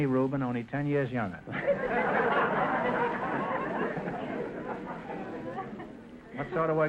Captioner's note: audience laughter